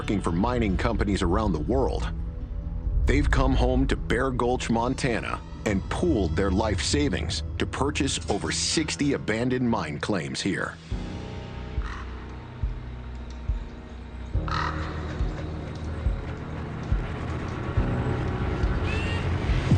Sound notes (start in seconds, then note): 12.0 bird caws; 12.0 tense music